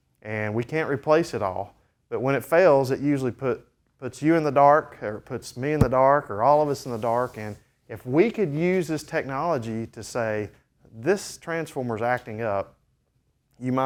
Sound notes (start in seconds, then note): none